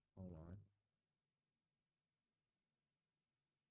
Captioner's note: silence